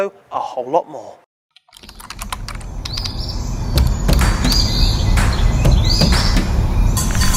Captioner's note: keyboard typing; birds chirping